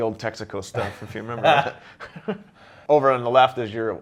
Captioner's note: laughs